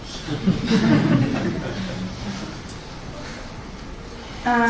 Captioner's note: laughter